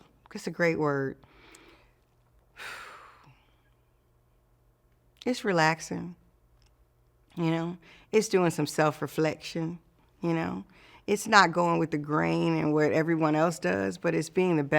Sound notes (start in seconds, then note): 2.5 exhales